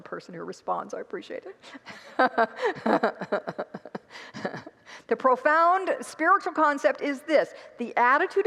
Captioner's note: congregants laugh